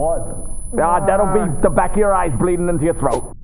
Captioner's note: high pitched ringing; high pitched ringing